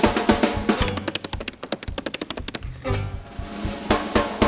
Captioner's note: drums banging; tapping; drums banging